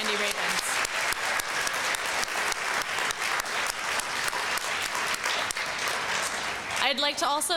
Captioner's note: applause